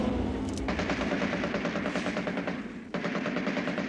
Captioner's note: guns firing